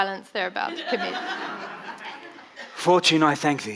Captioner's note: audience laughing